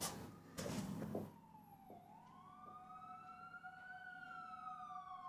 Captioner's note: sirens wailing